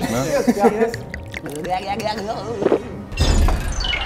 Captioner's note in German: Ekelgeräusche